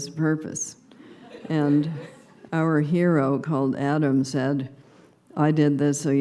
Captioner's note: subdued laughter